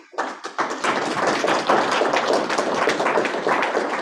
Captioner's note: audience claps